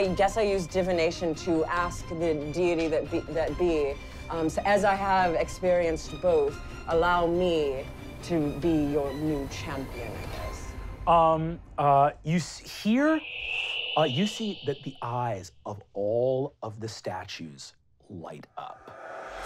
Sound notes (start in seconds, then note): 12.8 whistling